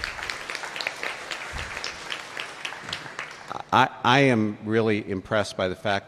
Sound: applause

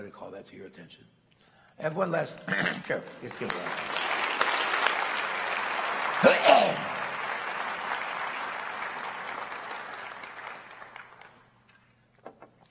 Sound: applause

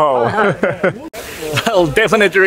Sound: laughs

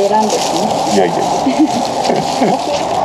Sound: laughs

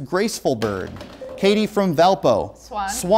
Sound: beeping

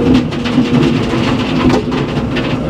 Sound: motor rumbling

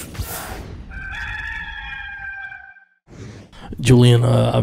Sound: rooster crowing

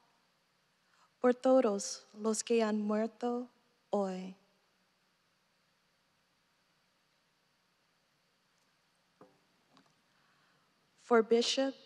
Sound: speaking non-english

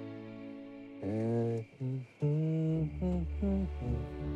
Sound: Willard humming

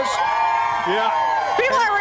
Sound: cheering

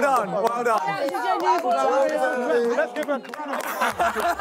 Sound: contestants cheering indistinctly; contestants laughing

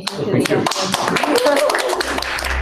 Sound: applause

